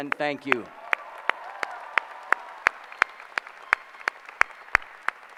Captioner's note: applause